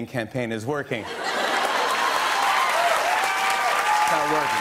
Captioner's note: laughter and applause